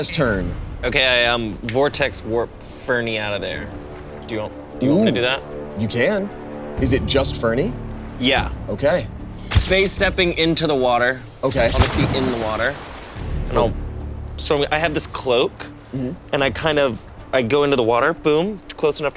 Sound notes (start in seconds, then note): 12.4 water sloshes